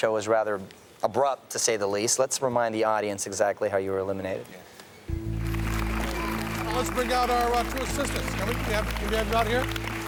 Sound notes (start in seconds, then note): 5.2 audience applauds